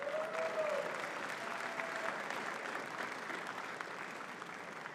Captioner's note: audience cheering and clapping